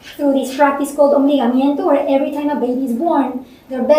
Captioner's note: speaking spanish